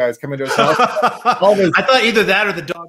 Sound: laughs

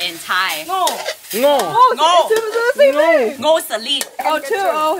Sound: in Thai

